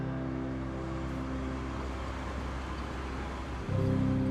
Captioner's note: train whirring